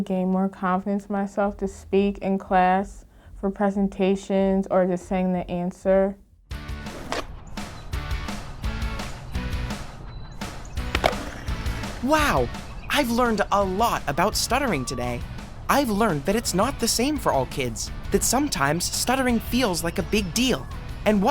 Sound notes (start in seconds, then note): 7.9 upbeat rock music; 10.9 skateboard grinding